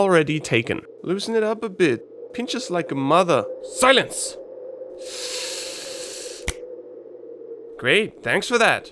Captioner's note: inhales sharply